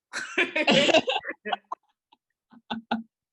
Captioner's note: laughing